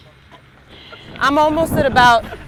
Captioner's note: wind whooshing